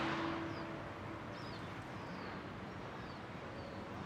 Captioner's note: birdsong